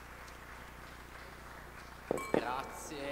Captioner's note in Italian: Applauso